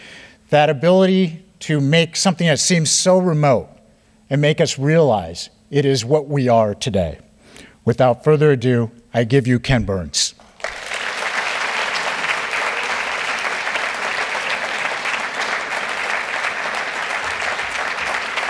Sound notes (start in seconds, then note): 10.4 applause